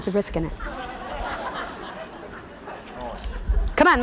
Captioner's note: laughing